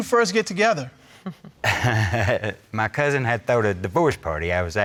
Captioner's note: chuckles